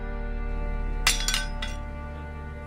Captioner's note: knife clatters